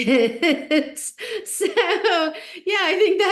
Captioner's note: laughing